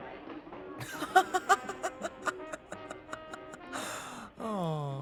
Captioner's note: laughing